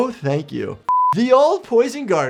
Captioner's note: screen beeps